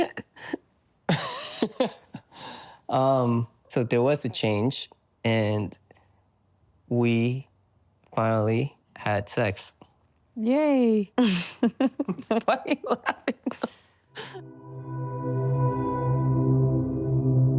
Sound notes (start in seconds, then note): 0.9 nervous laughing; 11.8 nervous laughing